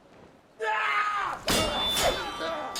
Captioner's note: yells